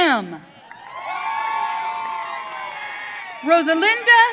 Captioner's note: audience cheering